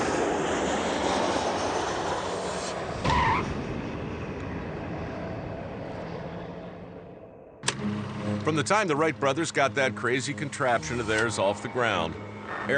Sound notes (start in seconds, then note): 0.0 airplane noise; 2.9 skid sound